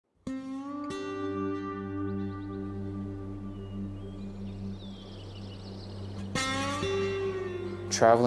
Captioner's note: birds chirping